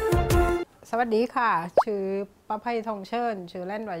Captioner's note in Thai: ภาษาใต้